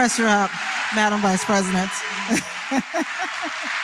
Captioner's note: laughter